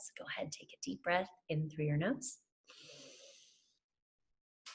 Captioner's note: inhales